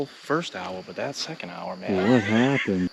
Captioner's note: laughing